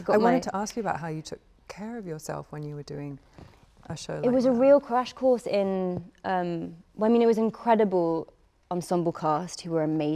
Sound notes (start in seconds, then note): none